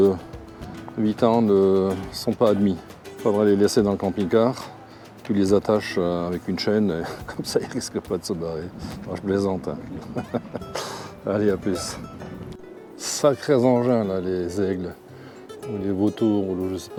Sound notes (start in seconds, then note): 10.0 laughs